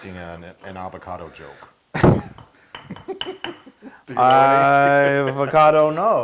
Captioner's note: laugh